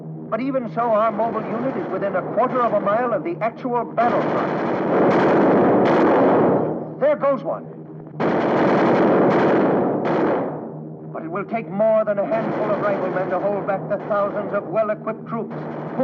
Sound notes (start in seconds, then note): 4.0 guns firing; 8.2 guns firing